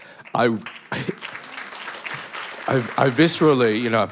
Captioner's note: applause